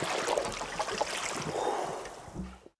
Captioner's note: diver exhales